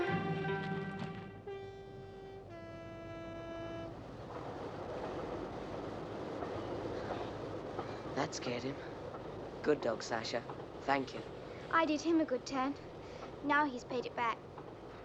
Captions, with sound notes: [train whistle blowing] That scared him. Good dog, Sacha. Thank you. I did him a good turn, now he's paid it back.